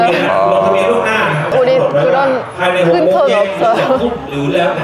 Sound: laughing; laughing

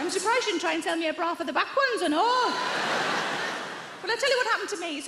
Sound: audience laughs

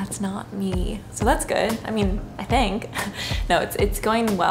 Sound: laughs

